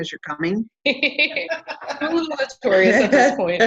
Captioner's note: laughing